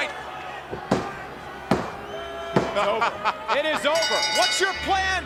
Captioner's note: laugh